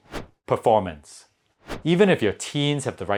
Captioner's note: graphics whooshing